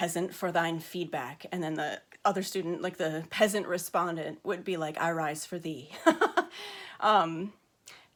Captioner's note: laughs